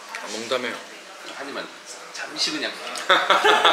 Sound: desperate haha

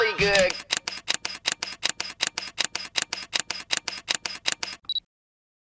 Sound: camera shutter sounds

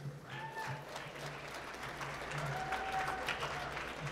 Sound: applause

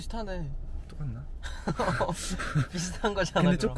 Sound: haha

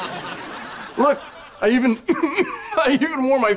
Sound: coughing

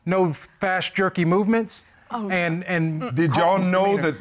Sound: grunts

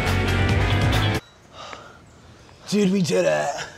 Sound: boys panting

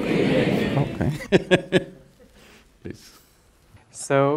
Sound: laughs

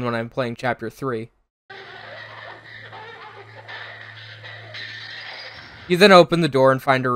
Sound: incoherent gurgling, screaming and general chaos

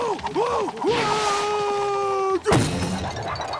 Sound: groaning; screaming

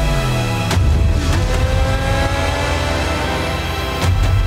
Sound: bike revving; dramatic music

